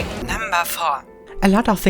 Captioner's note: electronic Voice